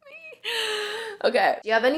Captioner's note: deep breath